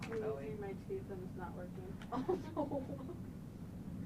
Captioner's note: laughing